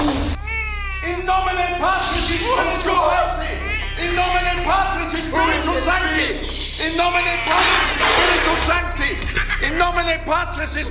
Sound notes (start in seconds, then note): 0.7 Van Helsing, praying in Latin; 1.0 Lucy hisses